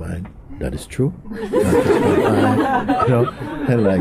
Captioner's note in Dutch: gelach